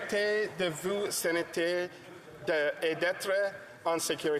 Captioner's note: speaking in French